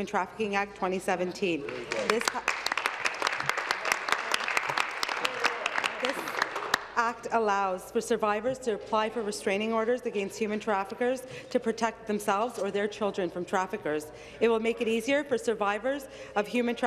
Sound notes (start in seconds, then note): 5.2 applause